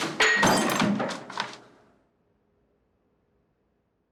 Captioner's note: glass shattering